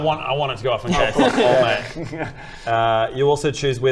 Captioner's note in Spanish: risas